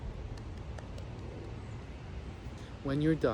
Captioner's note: soft clapping